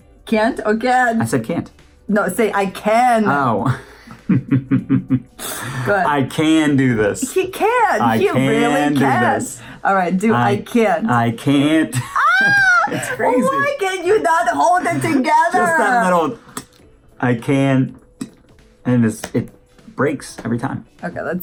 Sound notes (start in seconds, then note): 3.2 laughs; 11.9 laughs; 16.5 ticks tongue